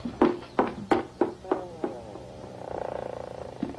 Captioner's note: door creaks